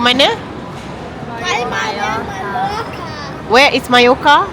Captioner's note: speaking German